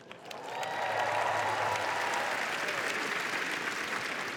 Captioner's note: cheering